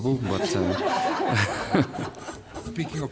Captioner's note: laughter